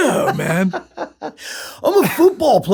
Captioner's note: laughter